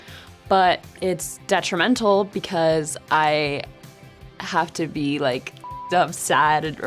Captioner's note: beep